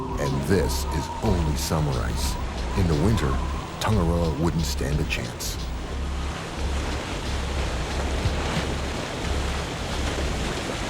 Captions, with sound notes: And this is only summer ice. In the winter, Tangaroa wouldn't stand a chance. (ice sloshing)